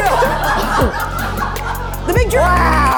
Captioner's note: light music; crew laughing